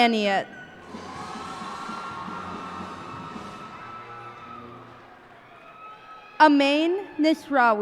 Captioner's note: cheers and applause